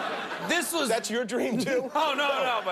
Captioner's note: laughter